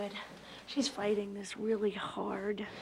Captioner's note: none